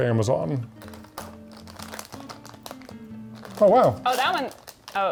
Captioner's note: bag rustling